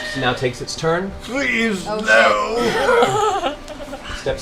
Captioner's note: stone Tiberius voice